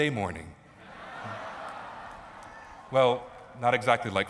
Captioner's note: laughter